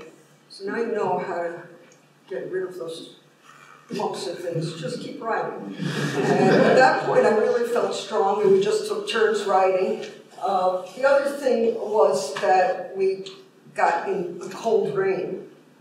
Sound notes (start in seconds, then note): 5.8 laughter